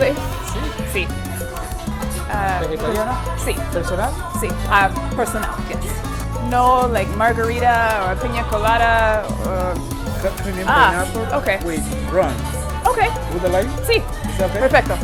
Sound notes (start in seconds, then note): 3.8 Spanish